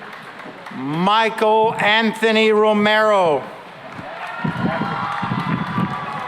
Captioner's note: cheering and applause